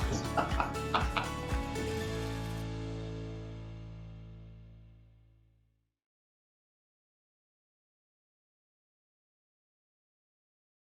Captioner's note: laugh